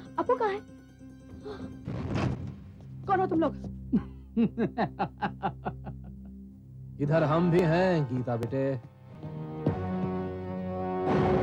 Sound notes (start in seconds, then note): 4.4 laughs